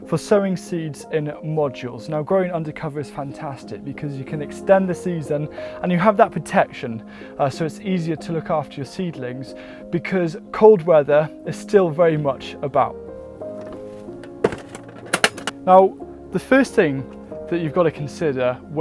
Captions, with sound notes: for sowing seeds in modules. Now, growing undercover is fantastic because you can extend the seeds then and you have that protection. So, it's easier to look after your seedlings because cold weather is still very much about. (calming music) (boxes thudding) Now, the first thing that you've got to consider